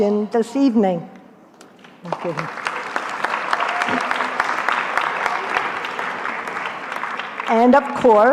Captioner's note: applause